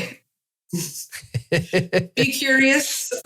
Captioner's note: moderator laughs